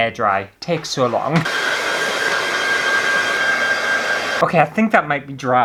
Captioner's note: hair Dryer Blowing